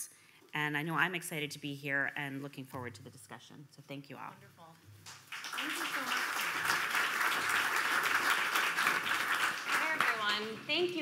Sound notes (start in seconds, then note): 5.2 audience applauding